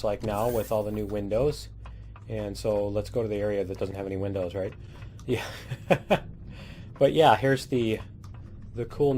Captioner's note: laughs